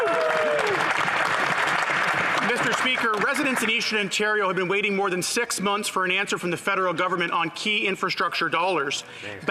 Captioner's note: some Applause